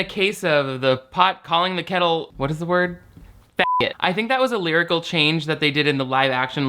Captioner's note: beep